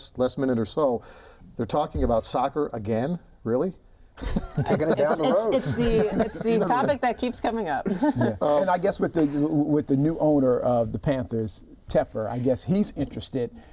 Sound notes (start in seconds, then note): 4.2 laughter